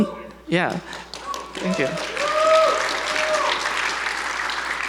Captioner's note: audience applauds